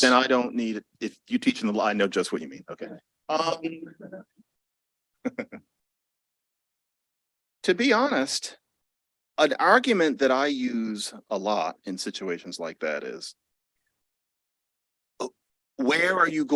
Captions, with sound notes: And I don't need-- if you teach them law, I know just what you mean. OK. [LAUGHS] To be honest, an argument that I use a lot in situations like that is, where are you